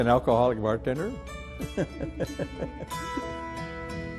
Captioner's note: laughs